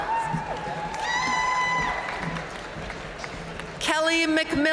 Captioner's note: audience cheering and applauding